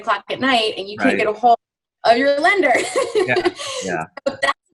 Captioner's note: laughs